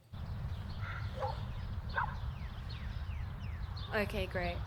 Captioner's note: dog barking